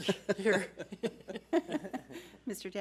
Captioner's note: laughter